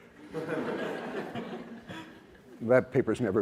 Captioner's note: laughter